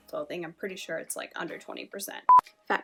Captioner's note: beep